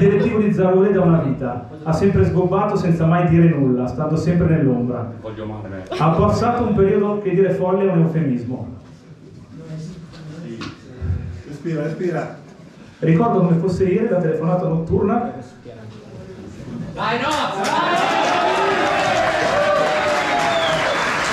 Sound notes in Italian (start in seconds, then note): 17.2 Applauso